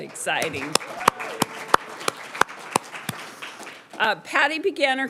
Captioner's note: audience applauding